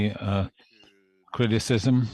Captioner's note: speaking French